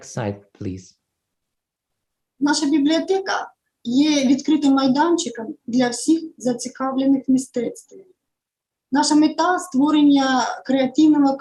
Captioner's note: foreign Language